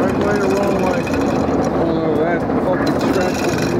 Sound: crew murmur

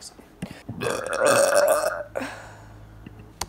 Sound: huge burp

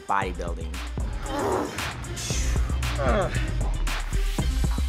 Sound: breathing heavily, grunting

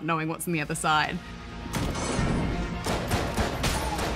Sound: heavy doors open

